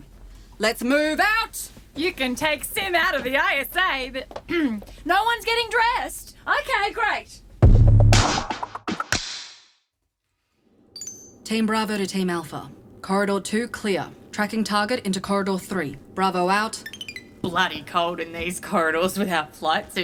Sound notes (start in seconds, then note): 7.6 A short percussive sting plays; 16.8 Sim’s communicator bleeps off